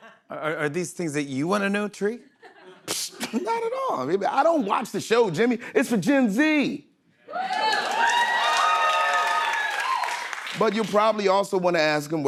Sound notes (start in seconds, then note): 2.4 scoffs; 7.3 cheers and applause